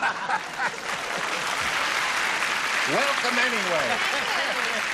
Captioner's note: laughter